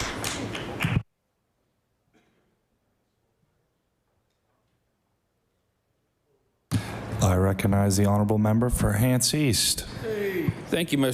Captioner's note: applause